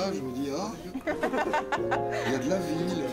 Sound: ahahahaha

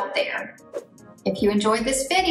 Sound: air whooshing

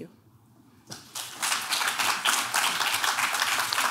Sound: clapping

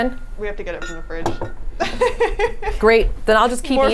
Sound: laughs

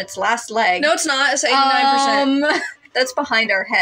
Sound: chuckle

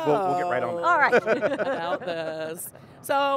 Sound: laughs

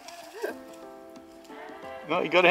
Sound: laughs

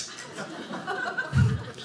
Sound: audience laughing

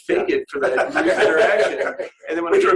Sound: laughter

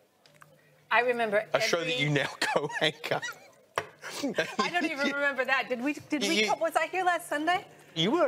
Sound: both laugh

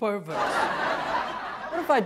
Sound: audience laughs

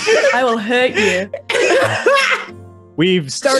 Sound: laughing

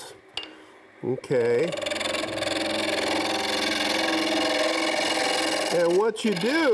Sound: tool rattling

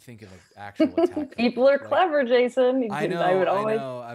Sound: laughs

